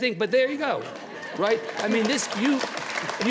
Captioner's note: audience applauds